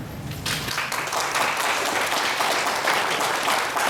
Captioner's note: applause